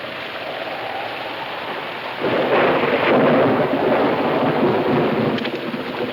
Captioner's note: wind howling; thunder claps